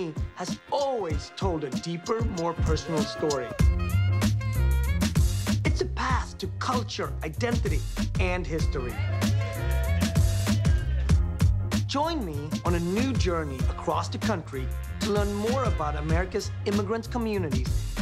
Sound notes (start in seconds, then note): 3.5 upbeat hip hop plays; 9.0 cheering